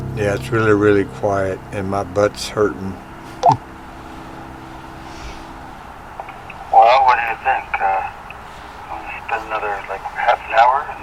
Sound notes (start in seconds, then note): 0.0 eerie music; 3.4 radio beeping